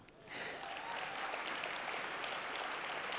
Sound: cheering and applause

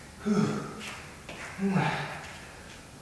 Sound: breath out

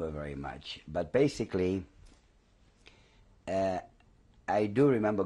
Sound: pauses for 3 seconds

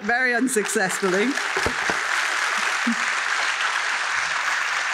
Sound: applause

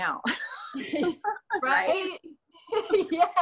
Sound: laughs

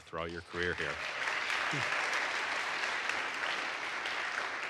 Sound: audience applauds

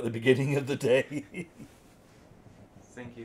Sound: chuckling

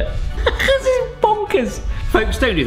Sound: laughing

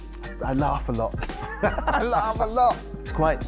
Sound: laughing

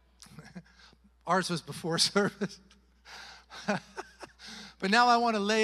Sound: chuckles

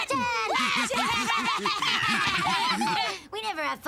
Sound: raucous laughter

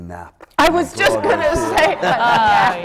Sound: laughter

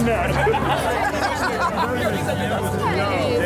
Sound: laughter

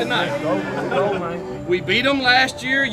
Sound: team cheers

